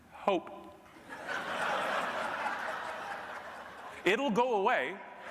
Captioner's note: audience laughing